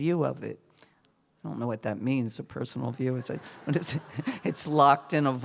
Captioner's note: laughter